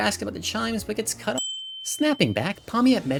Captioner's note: windChimes